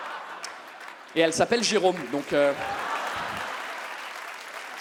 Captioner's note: audience claps and cheers